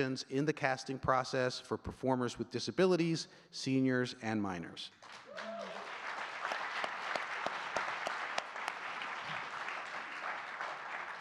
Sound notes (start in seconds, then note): 5.0 audience cheering and clapping